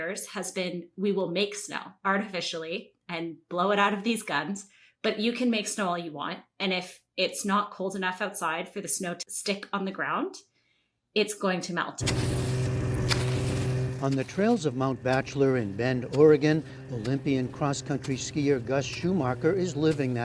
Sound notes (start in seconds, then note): 14.4 voice-over